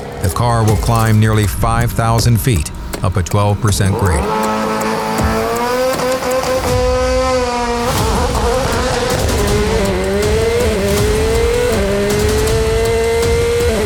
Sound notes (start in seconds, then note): 4.5 car engine revving; 9.6 upbeat music